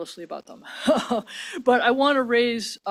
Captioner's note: laughs